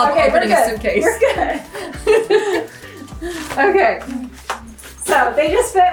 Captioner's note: laughs